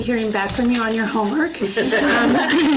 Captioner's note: laughter